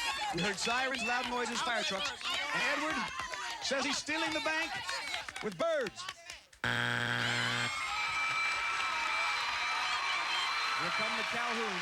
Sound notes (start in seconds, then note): 7.2 bell dinging, cheers and applause